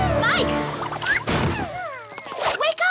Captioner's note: whiffle!